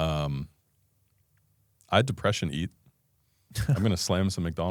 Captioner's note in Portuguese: risos